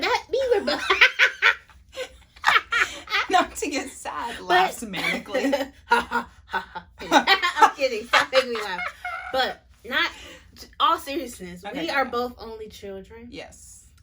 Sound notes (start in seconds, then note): 0.8 breaks into laughter; 5.8 laughs even crazier